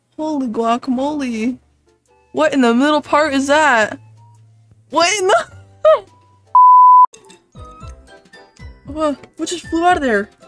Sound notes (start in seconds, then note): 5.5 laughing